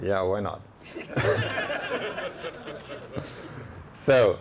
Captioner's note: laughing